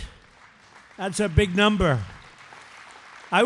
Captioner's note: applause